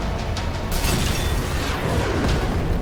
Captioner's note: glass shattering